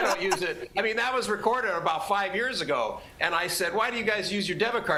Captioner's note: laughter